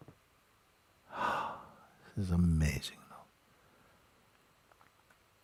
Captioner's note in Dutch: lange uitademing